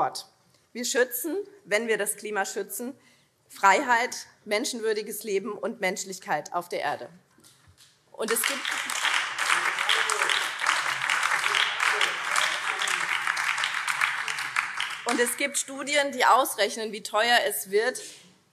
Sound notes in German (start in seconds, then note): 8.2 Beifall BÜNDNIS 90/DIE GRÜNEN